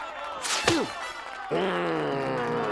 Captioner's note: grunts; growls